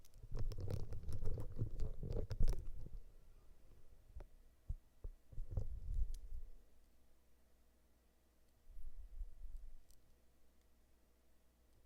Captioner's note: silence